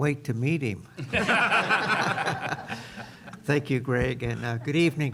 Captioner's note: laughter